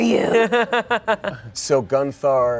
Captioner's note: laughs